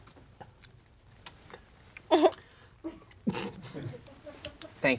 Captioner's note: people chewing food